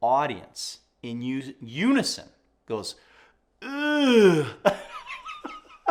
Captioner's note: laughs